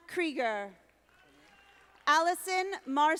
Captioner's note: audience applauding